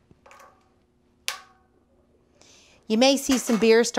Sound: snap

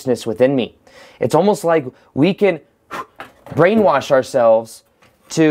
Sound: blows candle

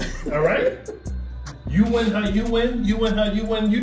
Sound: laugh

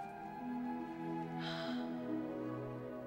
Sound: gasps

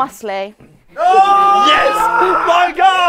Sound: people cheering

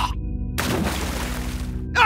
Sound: splash

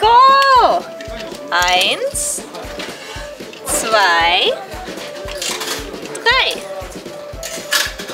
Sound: counting in German

